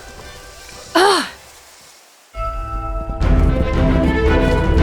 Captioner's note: Mila groans; dramatic orchestral music